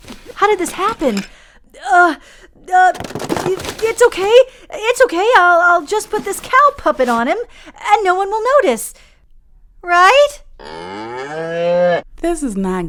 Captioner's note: sound of shifting through objects in a box; moo